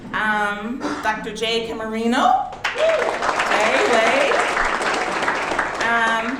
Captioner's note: audience clapping